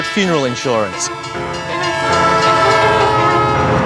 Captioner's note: train blares horn